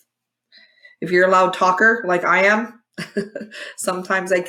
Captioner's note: chuckle